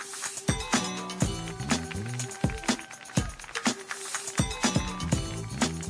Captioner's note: audience applauding; audience cheering